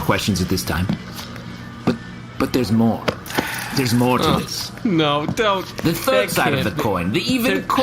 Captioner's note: exasperated